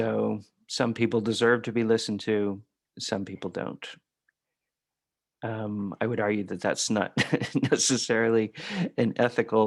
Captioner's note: laughter